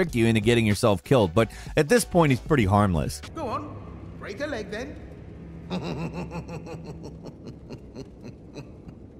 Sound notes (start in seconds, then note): 5.6 laughs